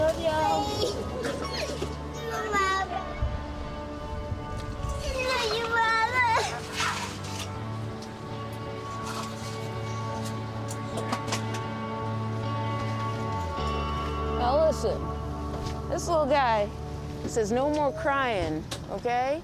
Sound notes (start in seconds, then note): 0.5 crying; 3.2 crying